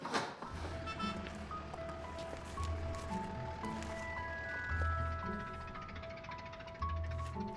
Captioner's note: loud bang, clatter; laughing